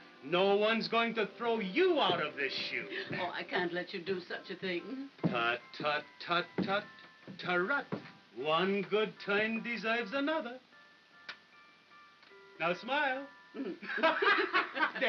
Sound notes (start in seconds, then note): 11.2 kiss smooches; 13.6 laughing